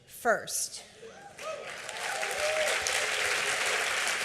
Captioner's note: applause